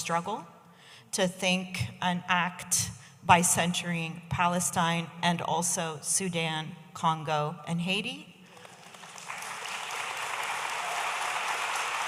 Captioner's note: audience applauding